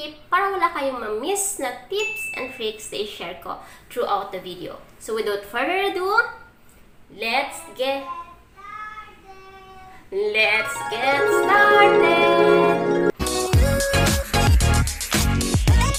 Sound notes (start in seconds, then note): 9.2 kid’s voice